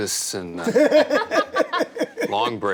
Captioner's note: several people laugh